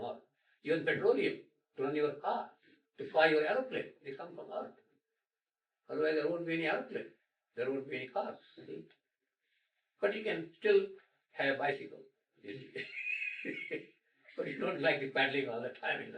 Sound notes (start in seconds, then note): 12.6 laughs; 15.7 laughter